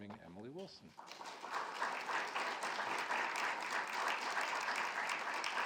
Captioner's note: audience clapping